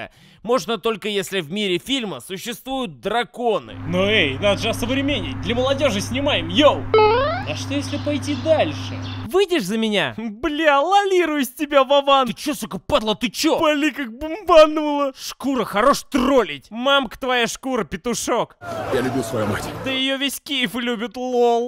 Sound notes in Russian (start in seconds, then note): 7.0 Звук прыжка из Mario